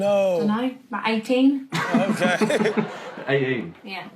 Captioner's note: audience laughs